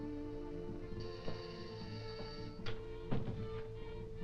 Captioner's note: doorbell buzzing